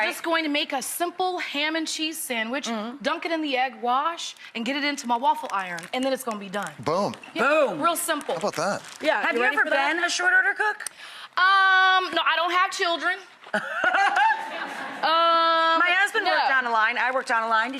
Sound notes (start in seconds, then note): 13.5 Rachael and audience laugh